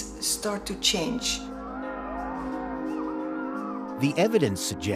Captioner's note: howling